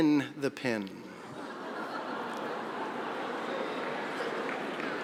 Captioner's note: audience laughing